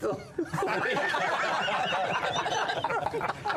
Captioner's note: laughter